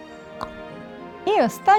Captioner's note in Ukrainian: цок